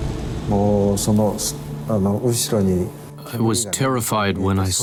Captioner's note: passenger speaking in foreign language